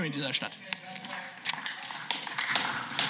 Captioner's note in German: Beifall